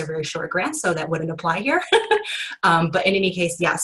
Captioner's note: laughs